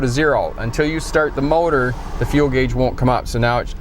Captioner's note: engine started